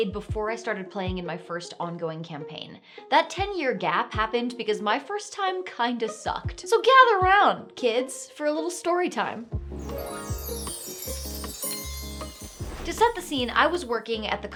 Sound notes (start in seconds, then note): 9.5 uplifting music; 9.8 bells chiming